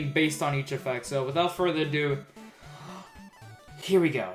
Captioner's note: breathes in